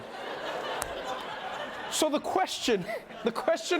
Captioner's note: laughter